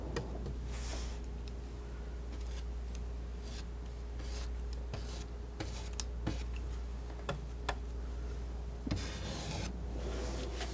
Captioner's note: scratching